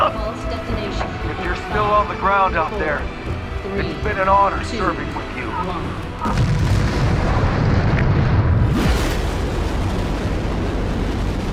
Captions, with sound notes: if you're still on the ground out there, it's been an honor serving with you. (explosion)